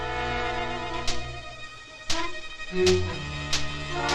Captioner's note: sparking